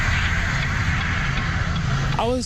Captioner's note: car Engine Roaring